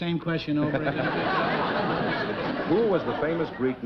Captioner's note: chuckling